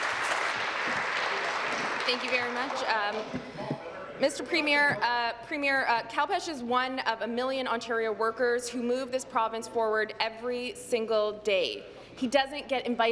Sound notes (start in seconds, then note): 0.0 applause